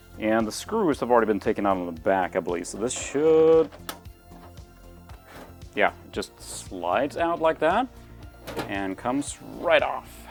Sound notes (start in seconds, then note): 5.0 case noises